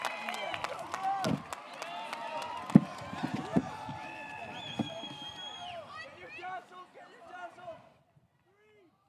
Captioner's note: applause